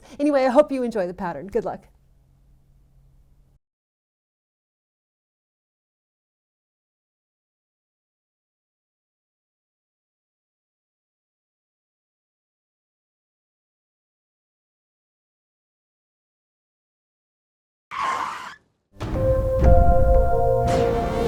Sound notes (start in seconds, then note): 11.1 silence